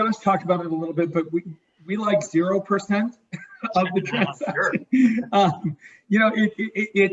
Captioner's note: laughing